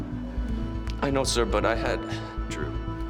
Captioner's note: sighs